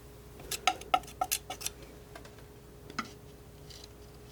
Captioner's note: scratching